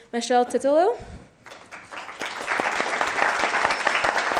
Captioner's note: clapping